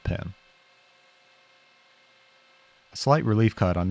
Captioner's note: lathe whirring